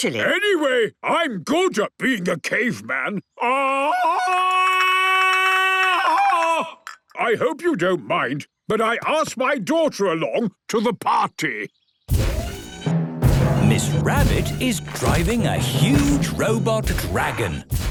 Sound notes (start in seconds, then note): 3.4 Tarzan call; 13.2 thudding, mechanical whirring